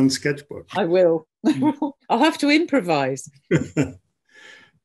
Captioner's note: laughs